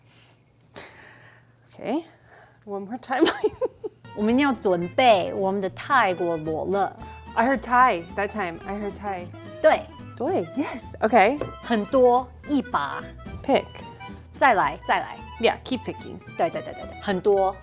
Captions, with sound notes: Okay. One more time. (speaking in mandarin) I heard Thai that time. I heard Thai. (speaking in mandarin) Yes. Okay. (speaking in mandarin) Pick (speaking in mandarin) yeah keep picking (speaking in mandarin)